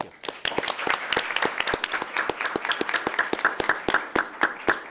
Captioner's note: attendees applauding